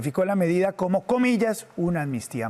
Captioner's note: HABLA EN INGLéS